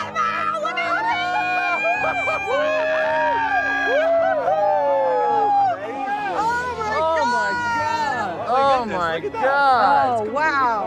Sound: yells

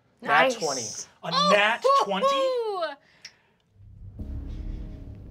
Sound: cheers

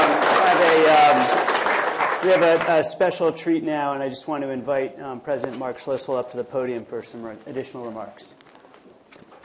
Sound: uh -- applause

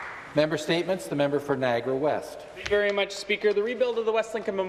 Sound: applause

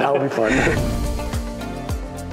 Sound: gentle upbeat music; both laughing

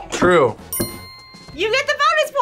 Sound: buzzer squeaks; bell dings

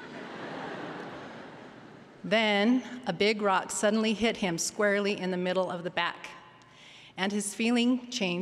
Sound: laughter

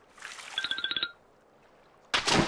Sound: splash

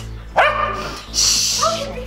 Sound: barks

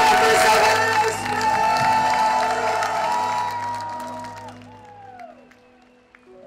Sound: audience cheering and applauding

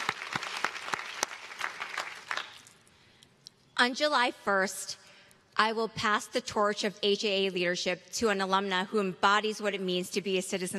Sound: applause

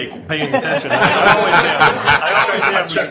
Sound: everyone laughing

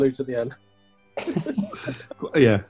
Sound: laughter

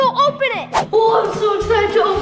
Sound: comic whoosh

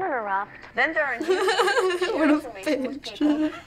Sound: laughter

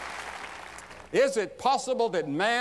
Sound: applause

